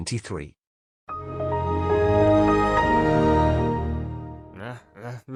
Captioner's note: windows xp startup sound